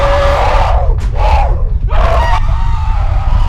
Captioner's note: growling